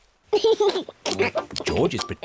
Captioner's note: laughs